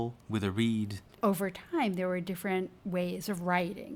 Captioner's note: voiceover